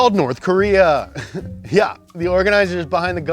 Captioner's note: laughs